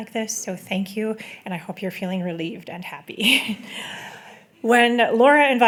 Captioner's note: chuckles